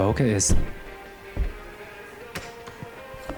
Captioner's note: thuds